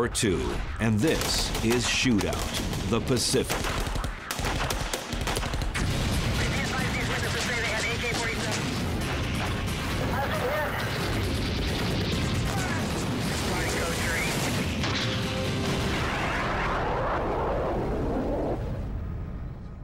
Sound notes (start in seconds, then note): 3.1 gunshots; 5.6 explosions